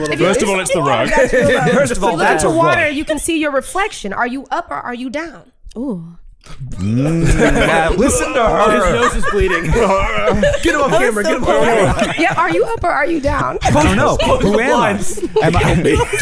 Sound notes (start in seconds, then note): 6.4 fake-vomiting; 9.8 groans